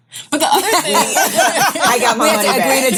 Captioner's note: all laugh